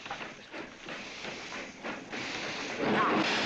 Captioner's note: train engine chugging